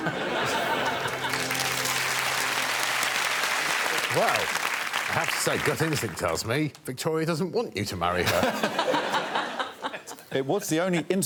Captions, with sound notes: ...Horne. [applause] Wow. I have to say gut instinct tells me, Victoria doesn't want you to marry her.